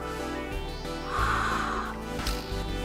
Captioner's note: exhales